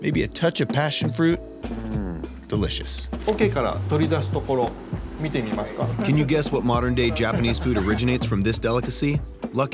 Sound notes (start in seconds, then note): 3.4 speaking Japanese